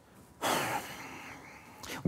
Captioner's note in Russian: вздох